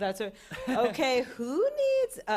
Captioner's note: chuckles